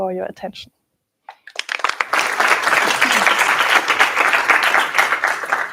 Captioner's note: applause